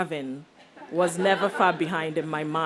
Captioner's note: audience laughs